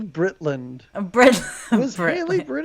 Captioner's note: laughs